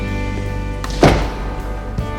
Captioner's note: door shuts